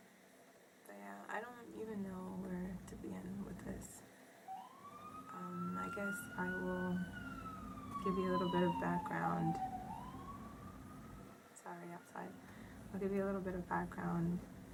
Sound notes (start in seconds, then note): 4.4 sirens ring; 9.6 sirens still ring